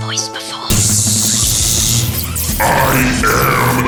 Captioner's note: fractail imitates buzzing sound